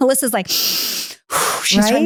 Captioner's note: inhaling